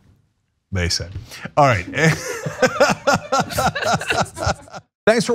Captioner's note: laugh